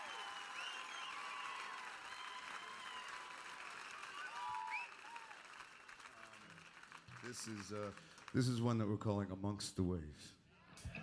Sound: cheers and applause

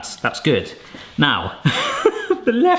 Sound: laughing

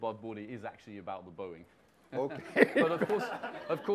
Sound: laughs

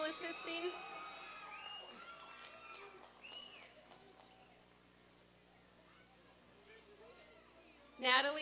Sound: applause and cheering

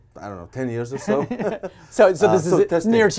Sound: both laughing

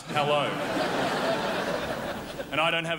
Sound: crowd laughs

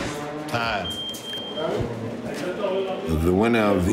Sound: beeping

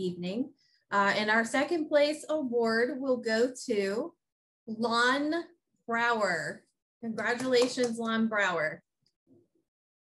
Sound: clapping

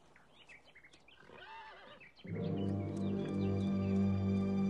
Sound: horse neighing; slow, tense orchestral music

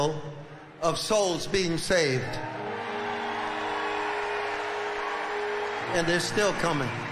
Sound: audience cheering loudly

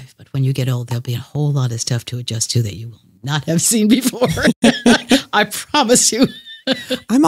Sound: laughs

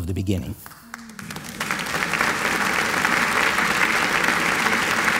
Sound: applause

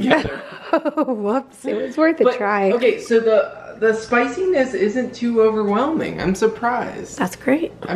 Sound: laughing

